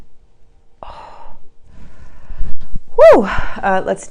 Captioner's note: exhales